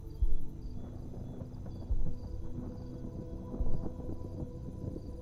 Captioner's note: thunder rumbles